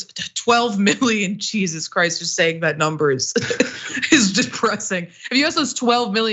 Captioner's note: laugh